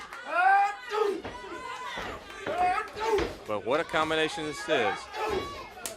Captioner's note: crowd cheering